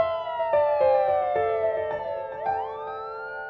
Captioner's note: police siren